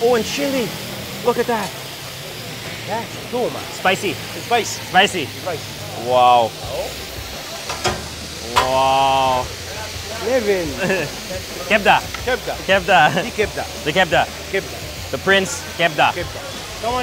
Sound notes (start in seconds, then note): 2.0 speaking in foreign language; 10.5 speaking in foreign language; 11.8 speaking in foreign langauge; 15.6 speaking in foreign language